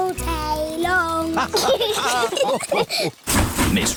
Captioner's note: laughter